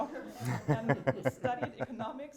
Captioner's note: audience laughs